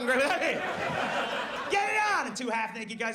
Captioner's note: audience laughs